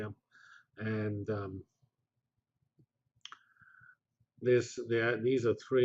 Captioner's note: pause